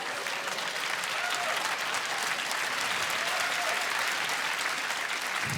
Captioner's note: applause